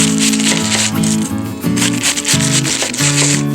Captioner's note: halved cabbage being sliced